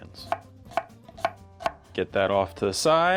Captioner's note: knife hitting board